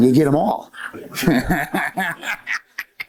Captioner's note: laughter